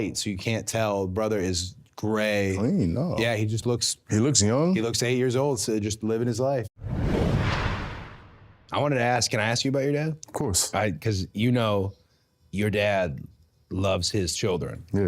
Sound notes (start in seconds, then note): 6.8 logo whooshing